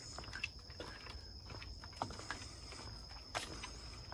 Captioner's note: footsteps tapping